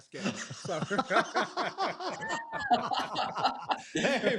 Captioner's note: laughter